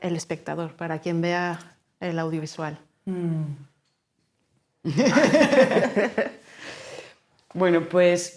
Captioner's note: laughing